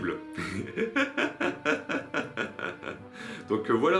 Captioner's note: laughs